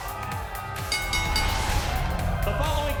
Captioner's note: bell dinging